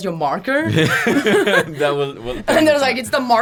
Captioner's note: both laugh